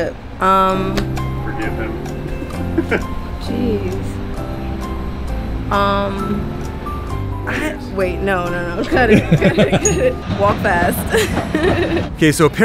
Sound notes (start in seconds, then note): 1.8 expectant countdown music; 3.0 laughs; 5.8 expectant countdown music; 8.7 laughs; 11.6 laughter